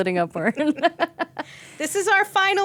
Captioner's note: laughing